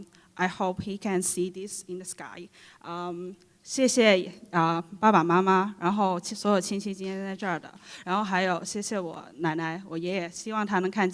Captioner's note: foreign Language